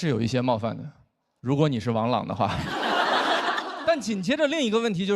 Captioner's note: laughter